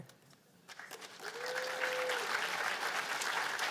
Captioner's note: cheers and applause